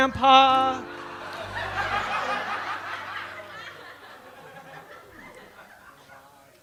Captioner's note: laughter